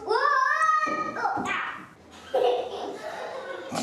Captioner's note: giggles